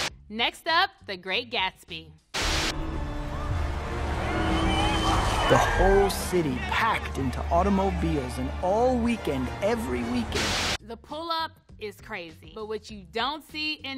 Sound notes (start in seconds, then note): 2.3 TV static hisses; 2.6 dramatic music; 4.5 cars revving; 4.5 people cheering